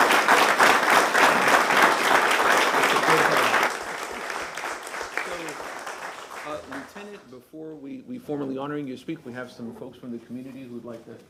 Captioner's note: applause